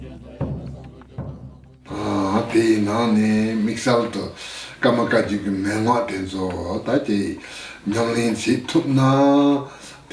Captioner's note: foreign Language